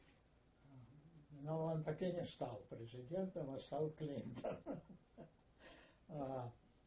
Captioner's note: laughing